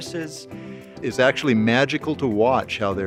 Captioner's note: voiceover